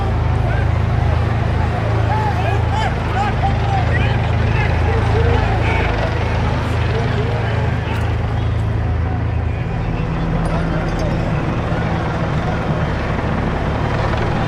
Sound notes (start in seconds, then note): 3.4 police officers yelling; 10.9 helicopter whirs